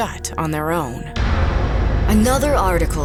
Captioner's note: door slams